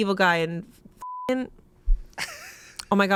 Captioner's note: laughs